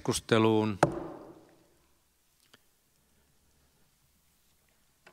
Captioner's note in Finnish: Nuijan kopautus